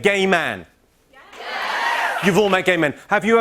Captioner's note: cheers and applause